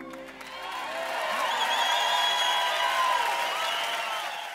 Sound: audience cheering

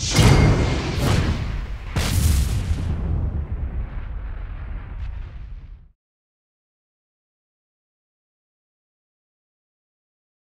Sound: whooshing sounds

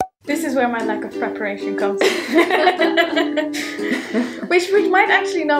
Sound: both laugh

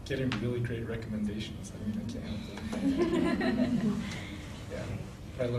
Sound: laughing

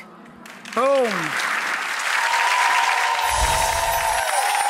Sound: audience clapping

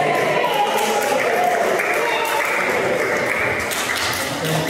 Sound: clapping

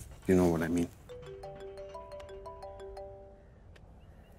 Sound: phone ringing

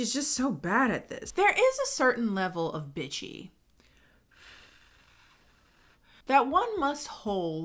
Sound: blows

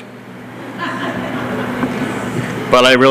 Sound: laughter

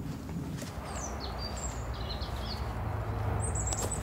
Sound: birdsong; distant traffic noise

